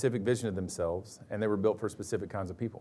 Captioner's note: none